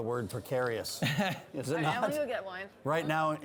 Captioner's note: laughs